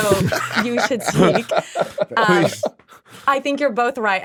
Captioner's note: laughing